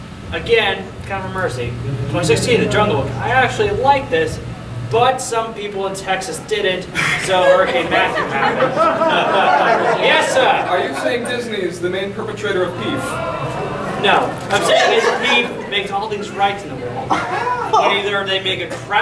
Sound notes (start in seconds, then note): 7.1 audience laughing; 14.2 audience laughing